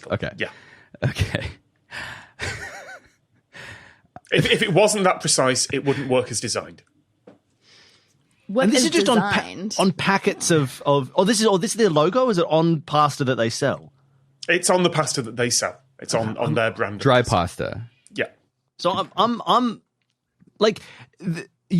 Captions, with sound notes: Okay. Okay. Yeah. (wheezes) If it wasn't that precise, it wouldn't work as designed. And this is just on packets of— Oh, this is their logo? Is it on pasta that they sell? It's on the pasta that they sell. It's on their brand of— Dry pasta. Yeah. So I'm... like...